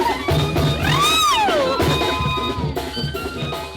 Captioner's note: cheering; festive music